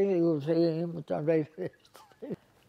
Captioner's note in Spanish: Ríe